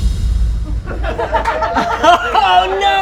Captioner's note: mysterious music; laughter